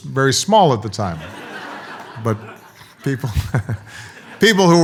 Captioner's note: audience laughs